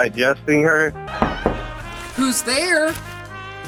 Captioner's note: door knocking; soft music